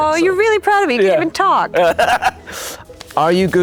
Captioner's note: laughing